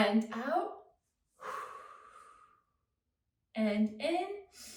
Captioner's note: exhales